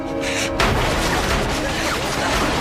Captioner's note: gunfire